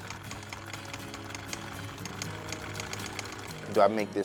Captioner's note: sewing machine whirring